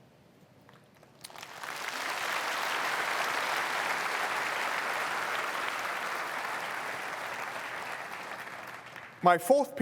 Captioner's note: applause